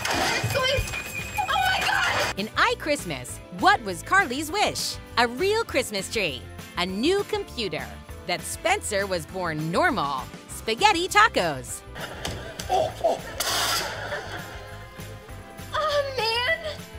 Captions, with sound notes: What's going-- Oh my gosh! In iChristmas, what was Carly's wish? A real Christmas tree, a new computer, that Spencer was born normal, spaghetti tacos. [moaning] Aw, man.